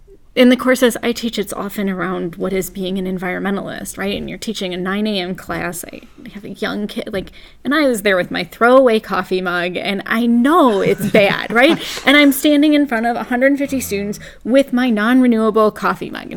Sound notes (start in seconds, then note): 10.6 laugh